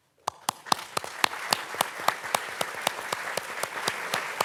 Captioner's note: participants clapping